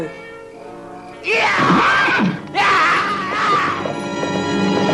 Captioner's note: whinnies